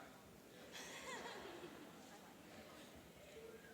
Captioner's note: laughing